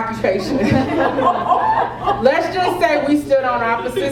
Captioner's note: laugh